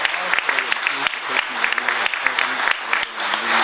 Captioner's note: applause